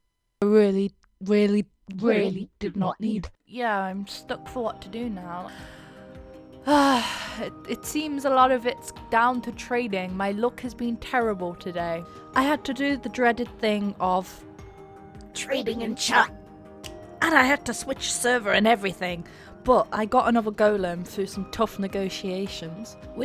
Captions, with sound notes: Really, really, really did not need... Yeah, I'm stuck for what to do now. [sighs] It seems a lot of it's down to trading. My luck has been terrible today. I had to do the dreaded thing of... trading in chat and I had to switch servers and everything. But, I got another Golem through some tough negotiations.